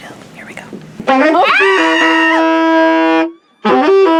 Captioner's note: screaming; loud saxophone music